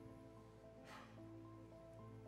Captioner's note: deep breath